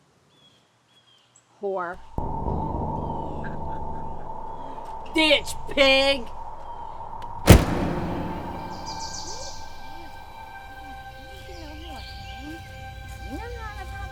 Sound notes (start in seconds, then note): 2.6 tense music; 7.4 door slams; 9.3 ominous music